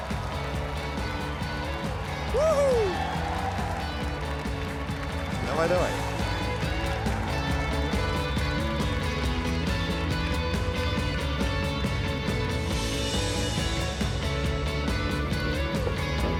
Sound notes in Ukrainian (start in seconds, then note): 0.0 оплески